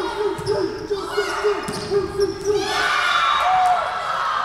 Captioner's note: crowd cheering